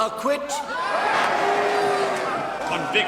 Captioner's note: cheering